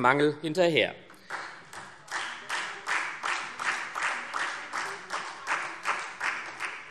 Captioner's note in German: Beifall SPD